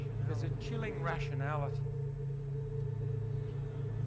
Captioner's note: voiceover